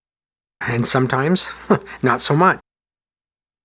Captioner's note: chuckle